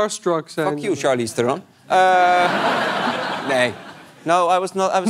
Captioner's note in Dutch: gelach